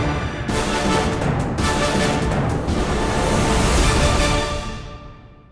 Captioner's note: none